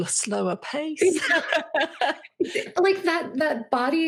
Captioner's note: laughing